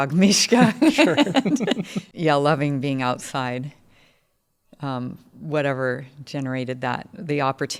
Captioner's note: laugh